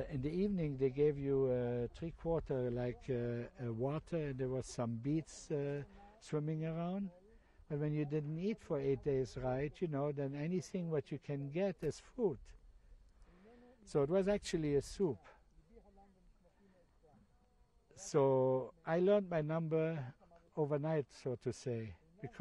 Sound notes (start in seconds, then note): 15.4 pauses for 3 seconds